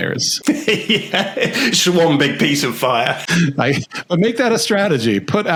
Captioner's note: laughs